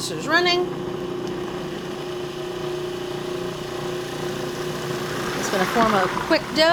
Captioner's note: food processor whirring